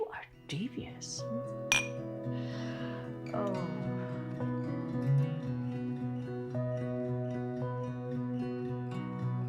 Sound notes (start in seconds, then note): 1.7 glasses clinking; 5.5 gentle upbeat music